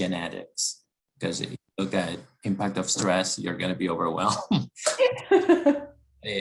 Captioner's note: laugh